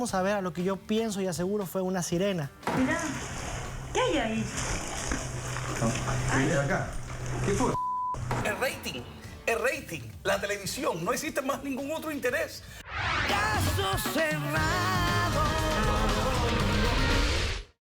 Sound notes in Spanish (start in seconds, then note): 7.7 Bip